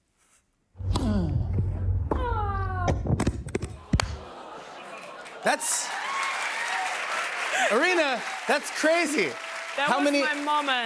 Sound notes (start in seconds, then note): 0.9 both grunt; 3.7 cheers and applause